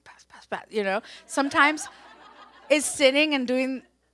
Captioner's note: audience laughs